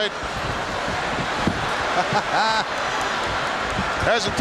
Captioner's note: Pat chuckles